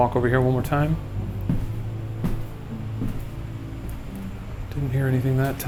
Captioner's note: footsteps clicking